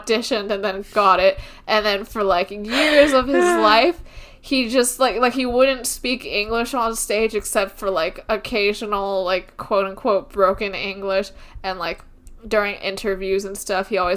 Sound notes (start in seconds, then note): 2.7 sighs